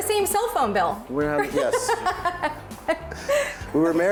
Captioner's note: laughing